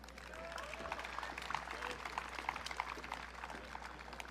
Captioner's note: audience cheering